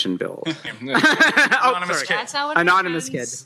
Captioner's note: chuckles